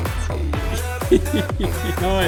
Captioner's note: laughter